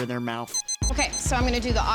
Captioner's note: thermometer beeping